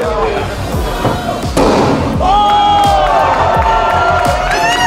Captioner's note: sledgehammer pounds; electronic music